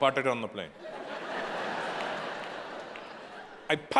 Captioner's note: audience laughing